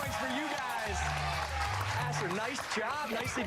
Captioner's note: applause